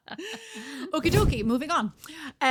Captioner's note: both laughing